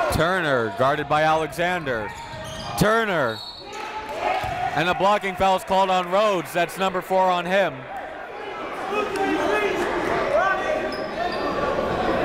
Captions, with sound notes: Turner guarded by Alexander. Turner (whistle blows) and a blocking foul's called on Rhodes, that's number four on him. (crowd talking)